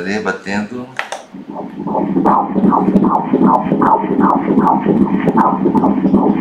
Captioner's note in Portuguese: batimentos cardíacos